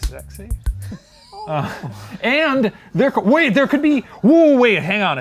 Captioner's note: laughs